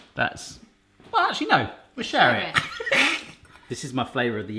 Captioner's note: laughs